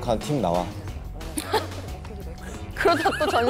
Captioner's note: chuckling